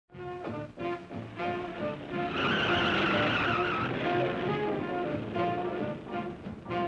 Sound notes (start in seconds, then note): 0.1 upbeat big band music; 2.4 tires squealing